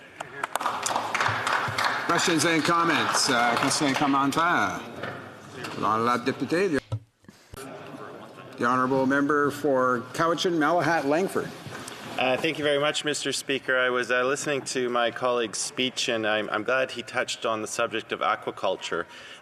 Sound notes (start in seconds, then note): 3.8 applause; 8.5 speaking French